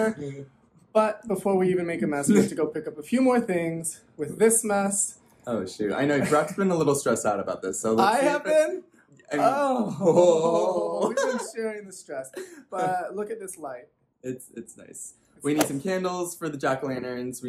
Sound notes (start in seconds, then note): 9.8 laughs; 15.0 swoosh